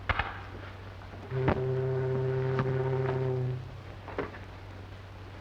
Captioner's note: ship whistles